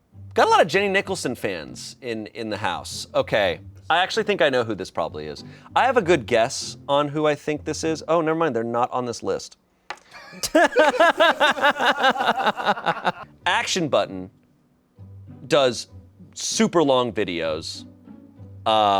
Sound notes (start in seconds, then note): 10.2 crew laughs